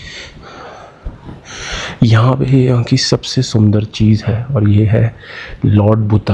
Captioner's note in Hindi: अचानक ज़ोर से सांस लेने की आवाज़; गहरी सांस लेने की आवाज़